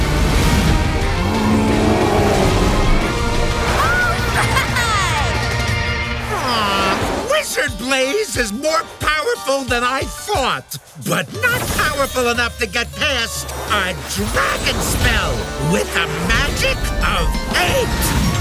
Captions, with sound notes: [growling] [laughing] Aww! Wizard Blaze is more powerful than I thought! But not powerful enough to get past a dragon spell with a magic of eight!